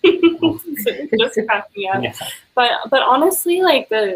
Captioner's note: laughing